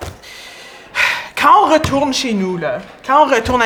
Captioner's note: sigh